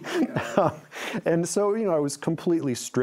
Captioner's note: laughs